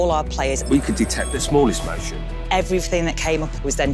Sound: voiceover

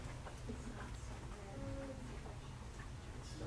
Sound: audience murmurs

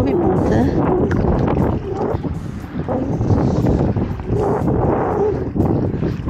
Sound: strong wind

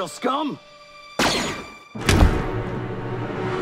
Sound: blaster fire

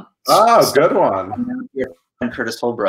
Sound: speaker interrupted by static

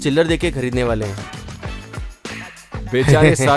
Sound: laughter

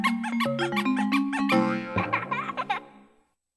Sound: boing, child laughing

